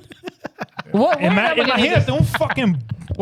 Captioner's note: laughing